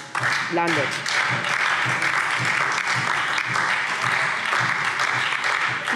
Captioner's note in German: Beifall SPD und DIE LINKE